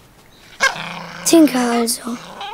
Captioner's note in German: Knurren